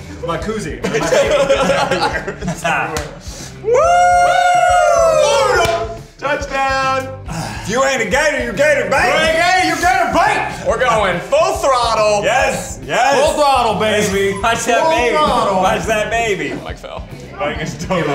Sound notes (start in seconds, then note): 0.8 group laughs; 3.6 group cheers